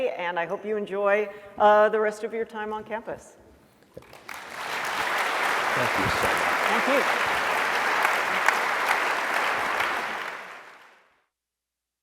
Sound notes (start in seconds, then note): 4.0 applause